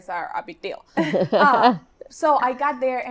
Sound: laughs

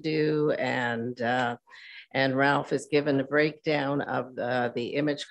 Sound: none

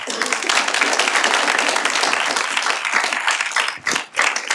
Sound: applause

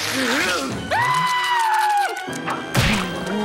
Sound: screams

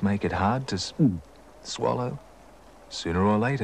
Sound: gulp

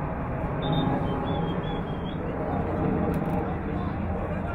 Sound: whistle blowing

